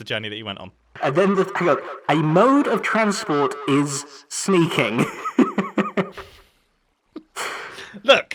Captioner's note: laughs